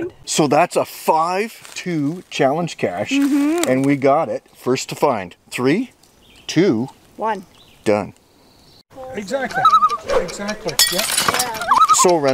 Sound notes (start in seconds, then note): 9.0 random chatter; 9.4 loon call